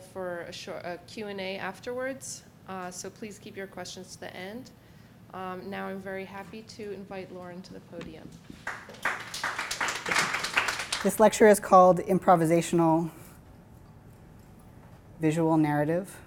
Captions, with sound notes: for a Q and A afterwards. So please keep your questions to the end. Now I'm very happy to invite Lauren to the podium. (audience clapping) - This lecture is called Improvisational Visual Narrative.